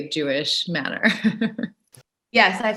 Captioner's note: chuckling